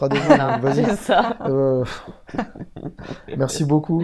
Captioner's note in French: rire